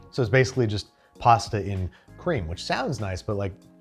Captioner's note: none